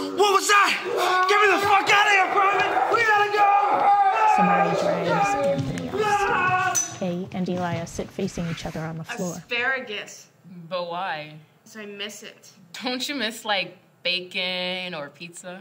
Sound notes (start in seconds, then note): 1.4 growling and yelling